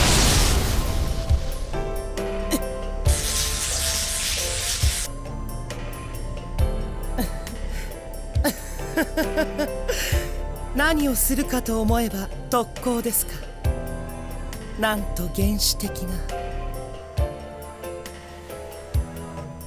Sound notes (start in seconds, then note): 8.3 laugh; 8.4 chuckle